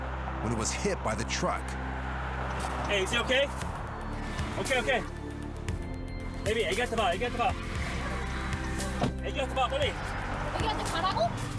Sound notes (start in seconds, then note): 5.4 foreign